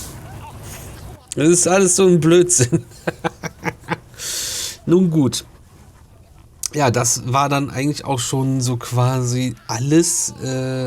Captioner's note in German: gelächter